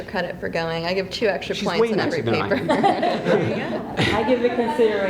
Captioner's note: laughs